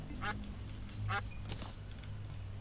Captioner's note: duck noises intensifies